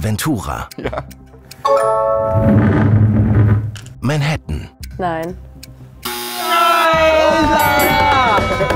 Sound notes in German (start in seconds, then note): 1.4 Klingeln